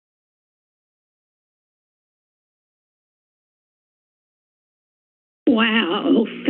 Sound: silence

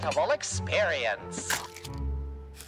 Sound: Egg Boi splats

